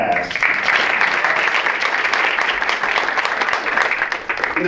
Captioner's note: audience applauds